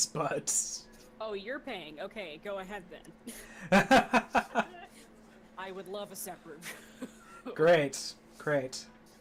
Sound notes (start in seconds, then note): 3.4 laughing